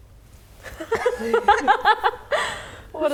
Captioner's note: laughing